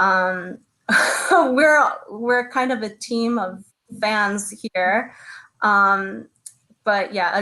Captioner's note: chuckles